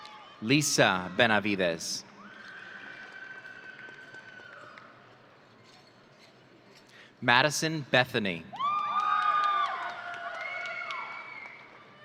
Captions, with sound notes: Lisa Benavidez. (audience cheering) Madison Bethoney. (audience cheering)